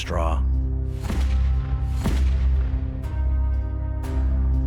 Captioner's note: gun firing